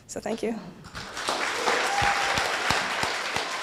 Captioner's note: applause